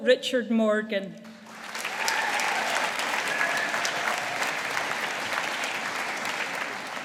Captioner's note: audience applauding